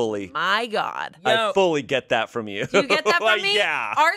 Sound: laughs

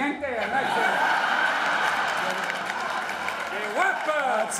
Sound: speaking spanish; audience laughing

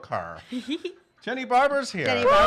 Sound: giggling

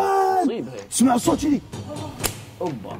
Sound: slapping noises

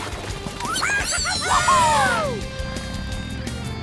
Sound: cheering

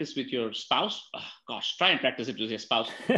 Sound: laughs; sighs

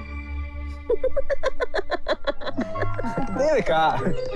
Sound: laughs

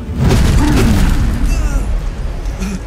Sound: Maripos grunts

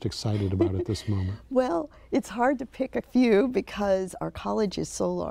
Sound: laughs

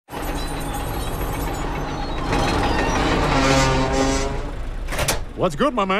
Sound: screeching machinery comes to a stop; hatch opens

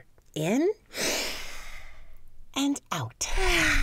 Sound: both inhaling; both exhaling

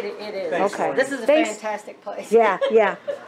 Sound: laughs loudly

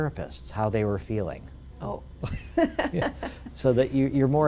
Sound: laugh

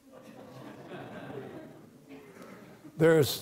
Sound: audience laughs

